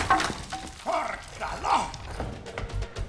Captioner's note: floor cracking; speaking in foreign language; energetic music